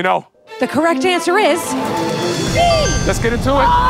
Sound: bell rings

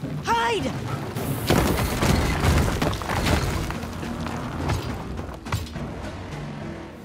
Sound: thudding

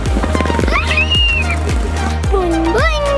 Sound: screams

